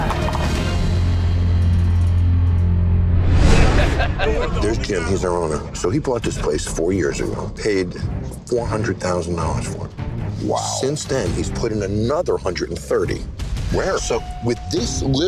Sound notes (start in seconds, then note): 0.2 dramatic instrumental music; 3.6 man laughing; 4.2 bar chatter